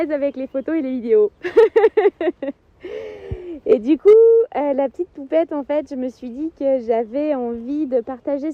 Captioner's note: laughs